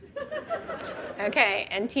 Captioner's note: audience laughing